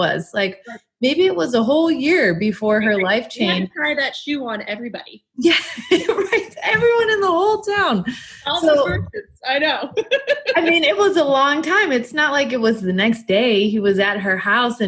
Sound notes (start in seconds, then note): 5.5 laughs; 7.7 murmurs; 9.7 laughing